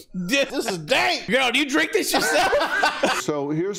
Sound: laughter

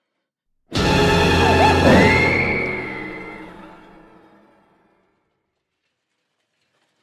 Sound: dramatic music; lamb screaming

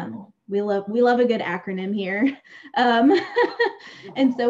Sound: laughs

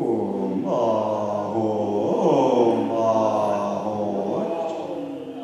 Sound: chants in foreign language

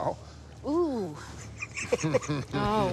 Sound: sobs

